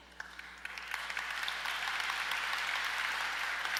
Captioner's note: audience applause